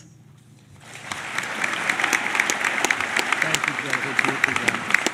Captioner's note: applause